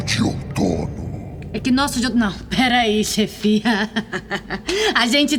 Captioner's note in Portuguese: risos nervosos